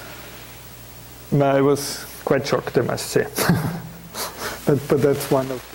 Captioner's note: chuckling